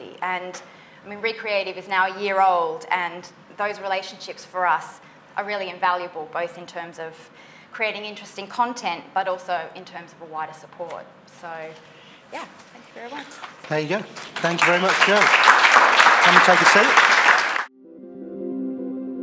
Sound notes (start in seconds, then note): 13.2 applause